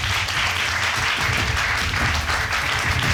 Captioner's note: audience applauding